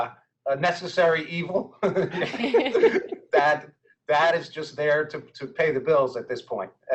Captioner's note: laughing